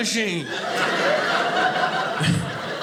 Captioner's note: audience laughing